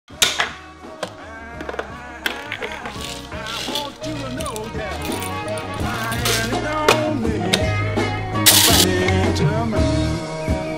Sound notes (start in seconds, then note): 0.0 hip hop music; 8.4 coffee beans grinding